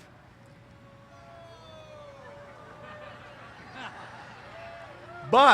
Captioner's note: cheers